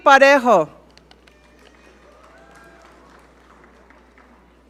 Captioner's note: audience cheer